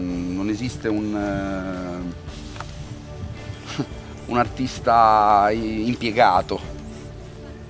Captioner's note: sneer